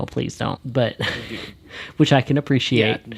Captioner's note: laughs